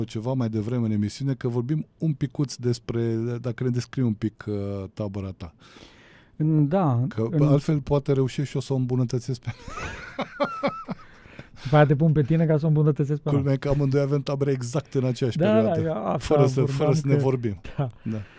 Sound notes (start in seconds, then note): 9.4 laughter